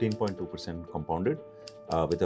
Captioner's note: keyboard clicking